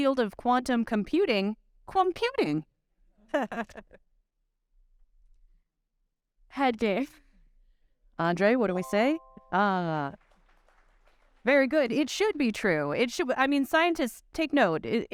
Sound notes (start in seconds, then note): 3.3 chuckling; 8.8 bright chime; 10.0 audience clapping